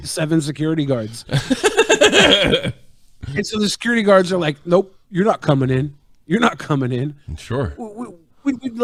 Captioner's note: laughing